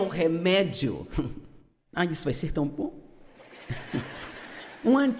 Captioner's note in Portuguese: audiência ri